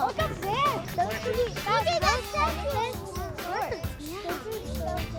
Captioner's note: kids chattering